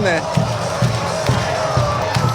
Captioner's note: cheering chant